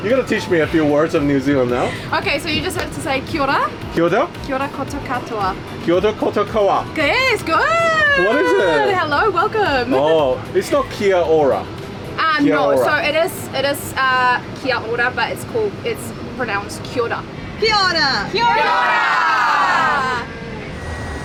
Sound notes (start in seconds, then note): 3.8 New Zealand speaking; 11.1 New Zealand speaking; 13.3 New Zealand speaking; 17.3 New Zealand speaking; 18.2 group yells greeting from New Zealand